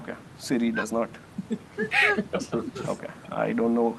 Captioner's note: laughter